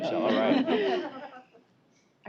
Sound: laughter

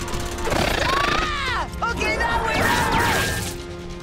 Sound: screaming

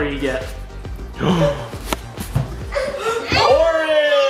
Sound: gasps

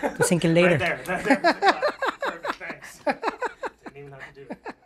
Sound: laughs

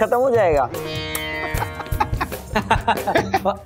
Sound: laughing

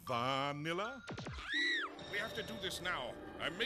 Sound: scream

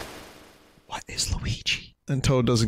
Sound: whispering

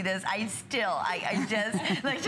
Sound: laughter

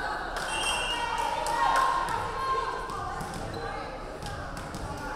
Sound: referee whistling

